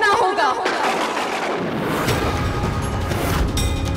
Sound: thundering

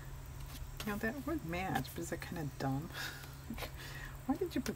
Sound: laughs

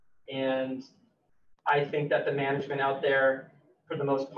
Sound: none

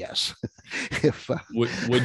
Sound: laughing

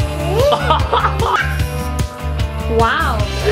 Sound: laughing

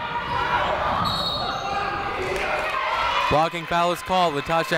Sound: whistle tweeting

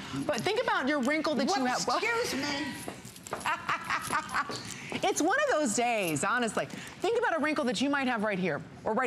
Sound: laughter

